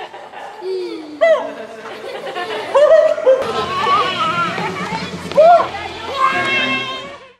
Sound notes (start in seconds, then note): 0.0 laughing; 1.0 whooping; 5.5 yells